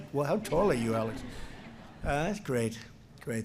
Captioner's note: laughter